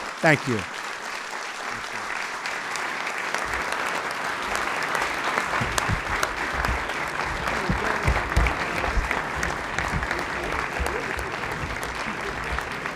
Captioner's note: applause